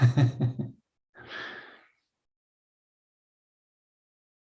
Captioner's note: laughing